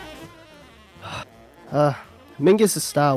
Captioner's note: sigh